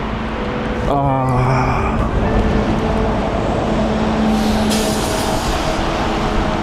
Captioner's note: wind Blowing